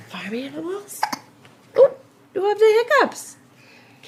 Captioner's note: hiccup